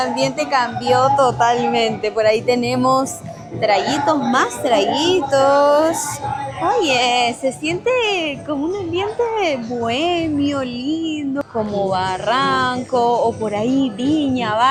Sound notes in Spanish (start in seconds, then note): none